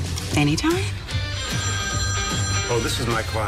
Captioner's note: phone ringing